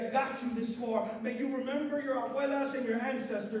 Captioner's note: non-english speech